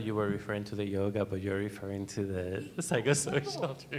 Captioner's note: laughs